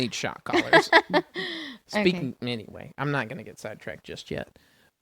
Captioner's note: laughs